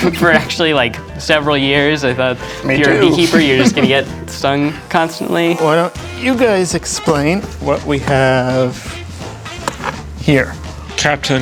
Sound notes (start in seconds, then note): 5.1 bee buzzing